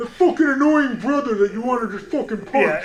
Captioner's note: imitates voice